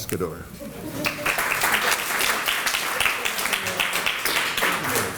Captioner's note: applause